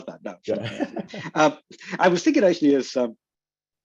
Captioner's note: laughs